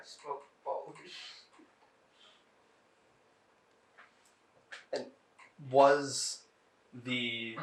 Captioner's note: laughing